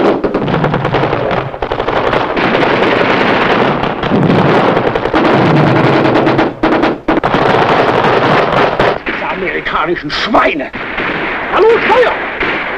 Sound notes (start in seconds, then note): 2.2 guns fire; 6.0 bomb explodes; 6.0 guns fire; 9.9 bomb explodes